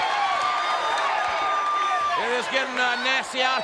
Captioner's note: audience cheers